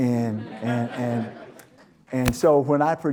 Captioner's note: audience Laughter